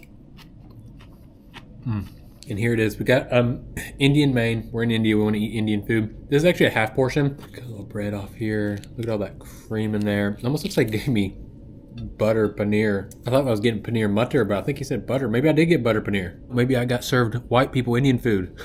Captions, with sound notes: Mmm! And here it is- We got uhm- *Clears throat* Indian main- We're in India- We wanna eat Indian food This is actually a half portion- A lil’ bread off here Look at all of that- Cream in there- Almost looks like they gave me- Butter paneer I thought I was getting paneer matar- But I think he said butter Maybe I did get Butter paneer! Maybe I got served- White people Indian food XD